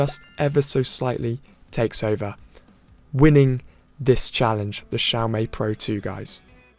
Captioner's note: winner sound